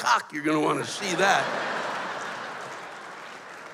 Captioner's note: laughter